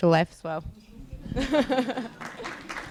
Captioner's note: laughs; applause